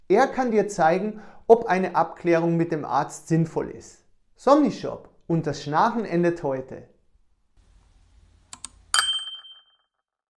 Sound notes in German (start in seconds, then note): 8.5 Mausklick-Geräusch